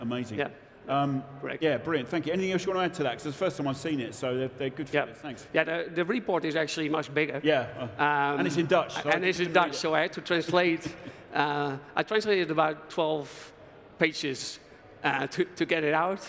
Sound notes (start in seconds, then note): 8.3 laughs